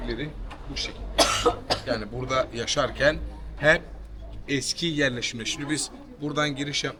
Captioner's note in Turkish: öksürme